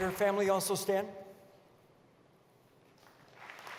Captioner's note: applause